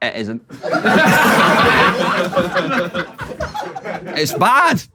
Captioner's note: people in room laughing